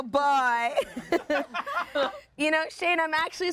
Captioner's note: everyone laughs